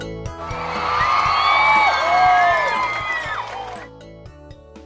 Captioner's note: crowd cheering